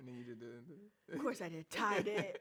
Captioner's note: laughs